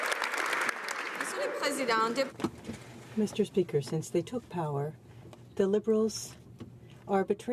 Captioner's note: applause